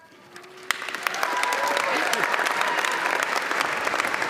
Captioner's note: audience applauds